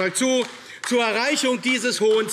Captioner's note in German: Beifall AfD - Zurufe DIE LINKE